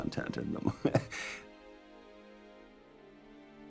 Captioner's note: laughing